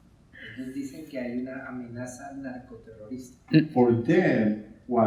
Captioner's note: speaking in Spanish